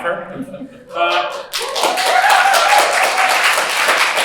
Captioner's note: applause